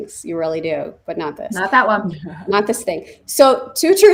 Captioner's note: laughs